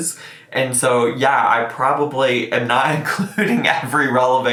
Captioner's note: laughs